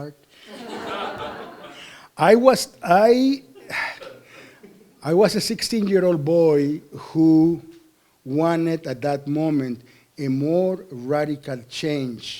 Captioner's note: laughter